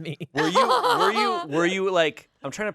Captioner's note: laughs